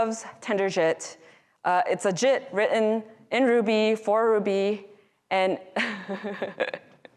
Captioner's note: laughing